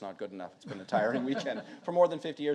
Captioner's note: audience laughing